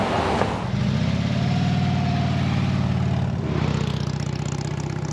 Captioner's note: motorcycle engine roaring